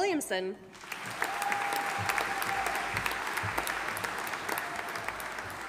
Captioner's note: audience applauding